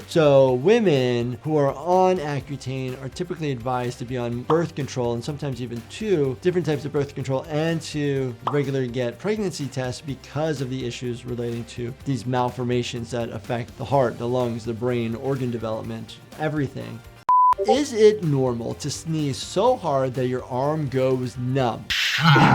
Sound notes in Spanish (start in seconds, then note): 17.3 pitido de pantalla; 21.9 estornudando